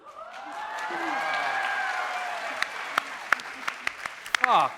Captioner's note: audience cheering